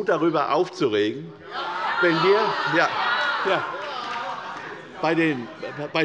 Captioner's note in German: Zurufe von der SPD und der LINKEN